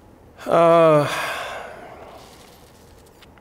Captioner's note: sighs